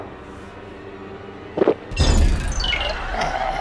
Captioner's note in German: Schlucken, Flirren